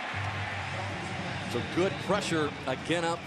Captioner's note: pa announcement